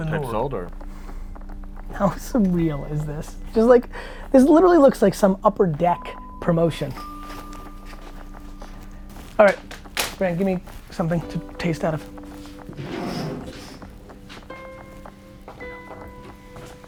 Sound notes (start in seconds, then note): 12.5 bottle sliding; 14.3 soft music